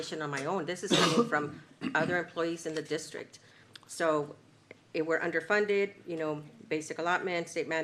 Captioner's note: clears throat